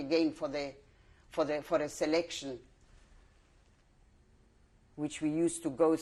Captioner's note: pauses for 3 seconds